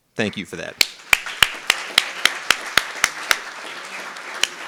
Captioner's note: clapping